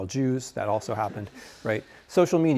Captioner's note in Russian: студенты смеются